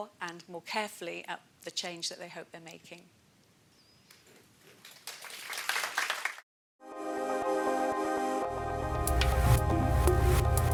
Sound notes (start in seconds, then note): 4.8 applause